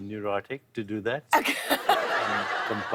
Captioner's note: laughter